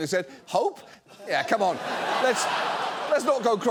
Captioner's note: audience laughs